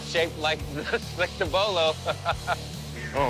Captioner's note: laughs